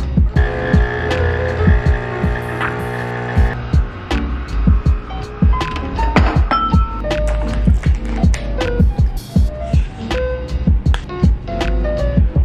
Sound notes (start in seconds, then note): 0.3 coffee machine whirring